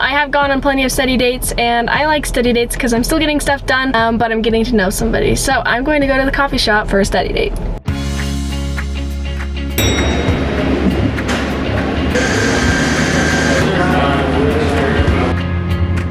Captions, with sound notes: I have gone on plenty of study dates and I like study dates because I'm still getting stuff done, but I'm getting to know somebody. So I'm going to go to the coffee shop for a study date. (upbeat music) (ding)